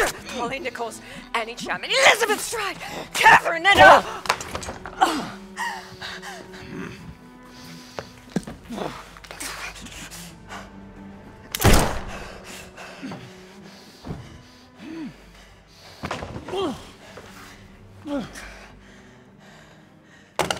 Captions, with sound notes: - Polly Nichols, Annie Chapman, Elizabeth Stride, Catherine Eddowes— (gunshot)